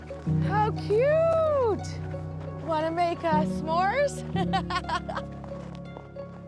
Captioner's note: laughs